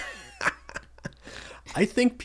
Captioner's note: laughter